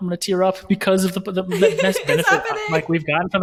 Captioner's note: laughing